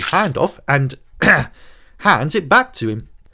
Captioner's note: ahem